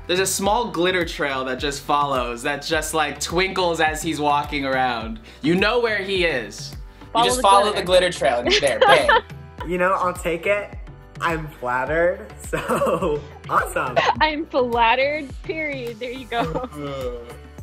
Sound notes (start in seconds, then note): 8.4 laughing